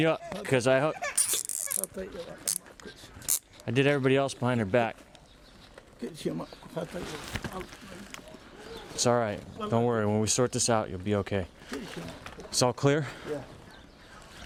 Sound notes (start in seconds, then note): 6.0 man muttering